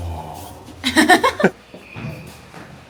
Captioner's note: chuckles